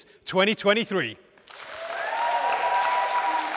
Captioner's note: applause